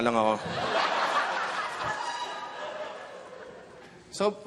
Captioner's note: laughter